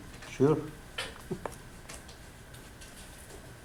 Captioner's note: voiceover